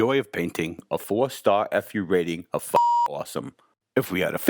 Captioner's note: beep